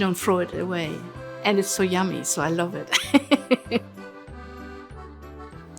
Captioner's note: laughs